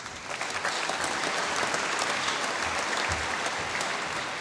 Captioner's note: applause